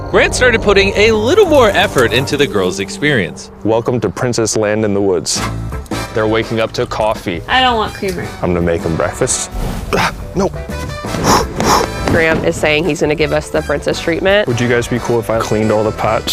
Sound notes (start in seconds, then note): 11.0 blowing